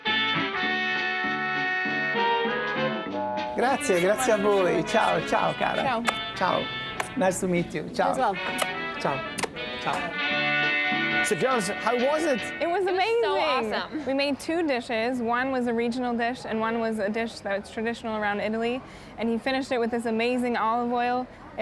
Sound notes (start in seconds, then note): 0.3 jazzy music; 4.4 Italian; 5.8 kissing; 8.4 kissing; 8.4 jazzy music